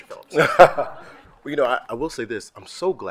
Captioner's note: laughing